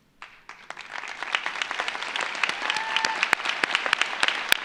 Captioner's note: audience applauds